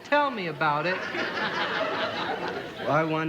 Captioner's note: audience laughing